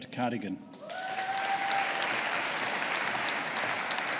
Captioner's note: audience applauding